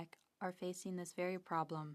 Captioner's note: speaking French